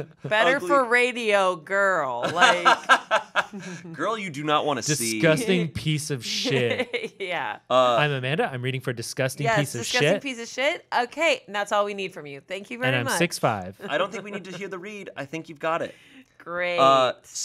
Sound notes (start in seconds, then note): 0.0 chuckling; 2.2 laughing; 6.2 laughing